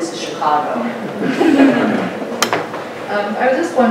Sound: audience laughing

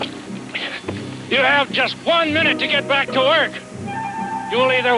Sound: shouting

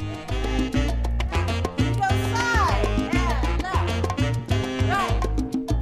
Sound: people shout above upbeat music

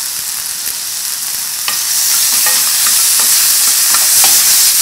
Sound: oil heating

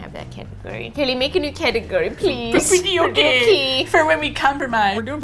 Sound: quietly; playfully

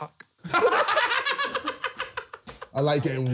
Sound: laughing

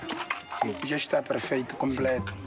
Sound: Portuguese spoken audio

